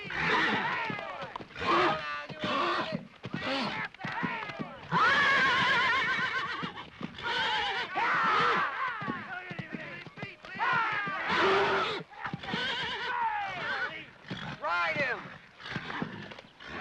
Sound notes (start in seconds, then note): 0.1 men clamor; 0.1 hooves pound; 1.5 horse grunts; 4.9 horse neighs; 9.1 hooves pound; 10.4 men clamor; 11.2 horse grunts; 12.3 horse neighs & grunts